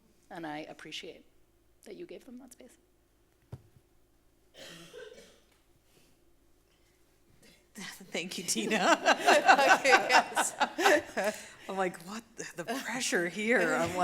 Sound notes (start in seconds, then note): 8.6 laughing; 8.6 laughs